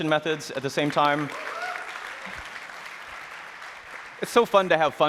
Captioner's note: applause